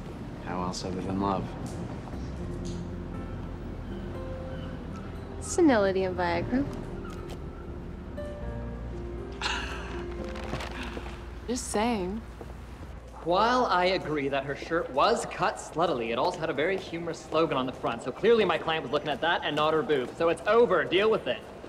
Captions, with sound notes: How else other than love? Senility and Viagra. (laughs) I'm just saying. While I agree that her shirt was cut sluttily, it also had a very humorous slogan on the front, so clearly my client was looking at that and not her boobs. So it's over. Deal with it.